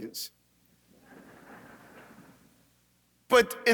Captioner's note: audience laughing